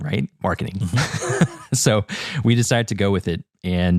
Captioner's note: laugh